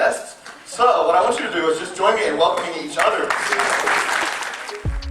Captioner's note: applause